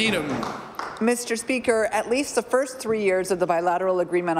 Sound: applause

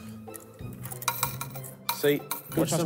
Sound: coins clinking

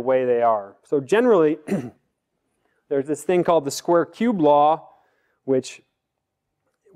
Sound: cough

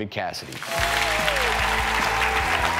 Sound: audience applauding; upbeat music

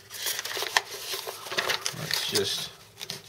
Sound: paper rustling

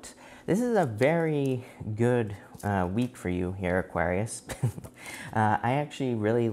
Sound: chuckles

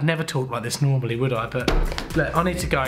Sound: knock at the door

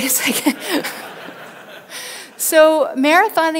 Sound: everyone laughs

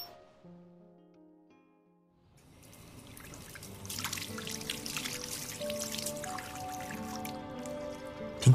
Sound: water flowing sounds

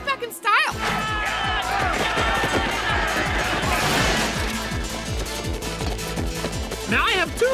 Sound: all shouting

